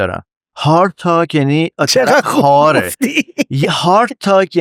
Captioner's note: laughs